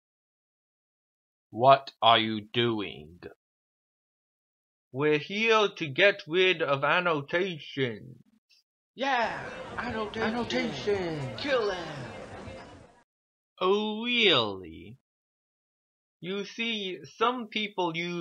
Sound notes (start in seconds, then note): 9.0 mob agrees